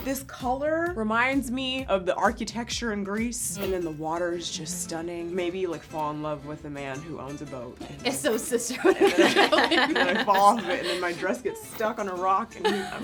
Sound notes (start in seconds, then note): 8.8 everyone laughing